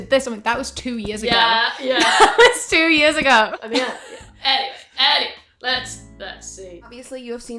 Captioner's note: both crack up